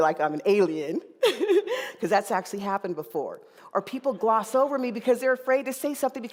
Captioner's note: laughing